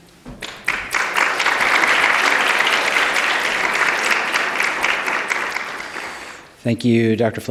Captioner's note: applause